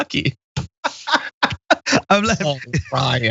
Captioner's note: laugh